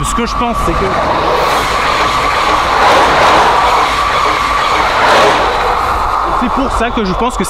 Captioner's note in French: Bruit de train, inintelligible